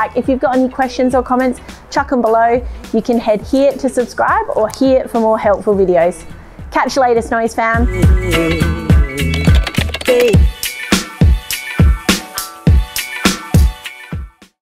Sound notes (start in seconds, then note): 8.4 upbeat music; 9.2 keyboard clattering